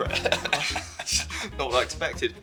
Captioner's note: laugh